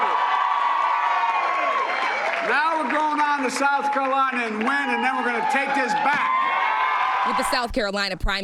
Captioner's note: cheers and applause